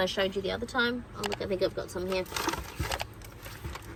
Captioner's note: plastic bags crinkle